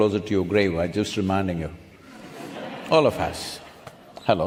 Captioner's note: laughter